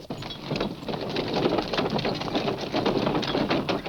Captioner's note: cart rattling